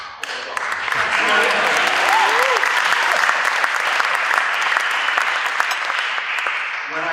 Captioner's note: applause